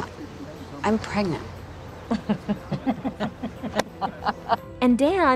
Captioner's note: laughter